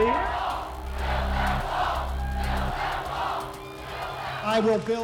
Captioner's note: crowd chants "build that wall"